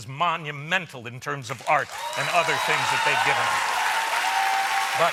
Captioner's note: applause